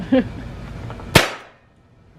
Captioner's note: gun fire